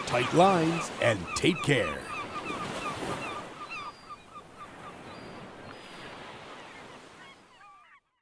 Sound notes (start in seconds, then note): 2.5 seagulls cawing